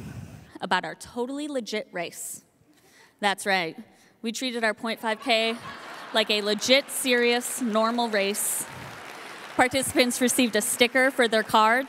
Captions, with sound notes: about our totally legit race. That's right. We treated our 0.5K (audience laughing) like a legit, serious, (audience applauding) normal race. Participants received a sticker for their car